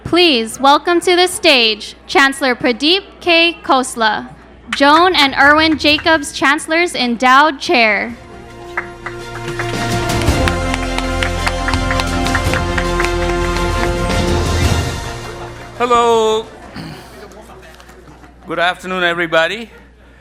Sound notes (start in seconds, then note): 8.4 upbeat music; 8.4 attendees applauding